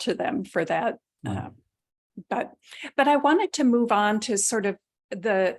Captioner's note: chuckling